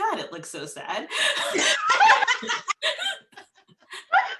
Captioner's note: all laugh